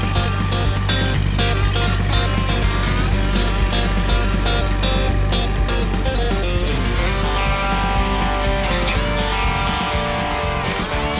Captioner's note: engine